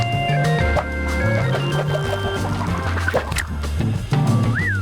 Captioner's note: chalk scratching; arm whooshing; chalk whooshes; Reed whistles